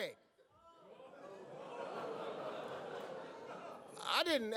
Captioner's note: crowd laughs and oohs